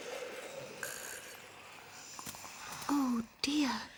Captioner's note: snoring